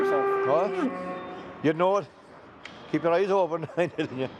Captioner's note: laughs